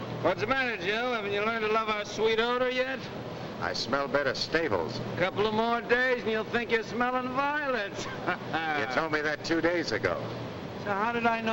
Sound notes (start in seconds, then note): 7.9 laughs